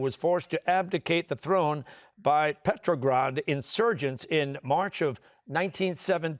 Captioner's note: none